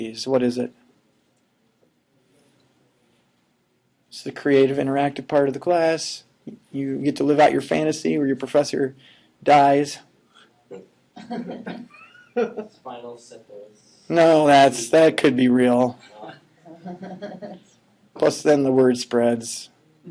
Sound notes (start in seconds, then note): 11.2 laughing